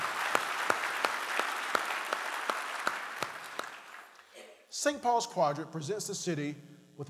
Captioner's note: applause